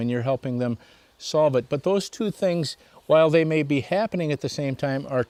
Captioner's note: birds chirping